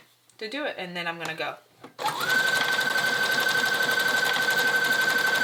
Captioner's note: sewing machine whirls